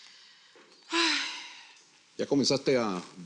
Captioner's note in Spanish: Ella suspira